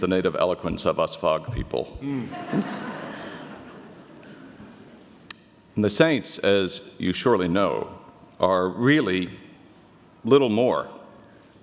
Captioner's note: audience laughter